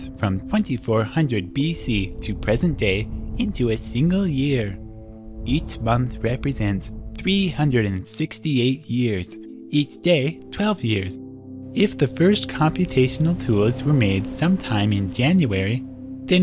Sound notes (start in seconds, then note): none